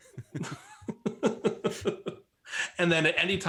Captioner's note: laughs